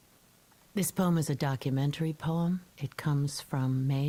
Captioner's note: recorded voice